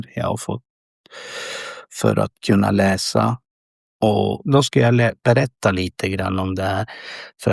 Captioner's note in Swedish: drar efter andan